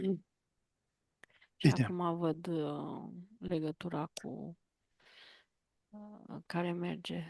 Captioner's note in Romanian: voce dreasă